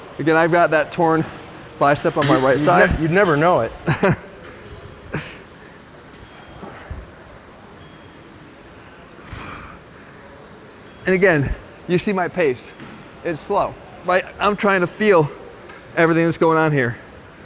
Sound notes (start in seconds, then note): 5.0 laughs